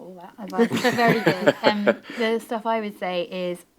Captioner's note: panel laughing